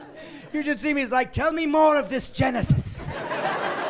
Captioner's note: laughing